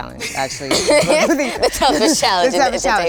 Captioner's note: group laughs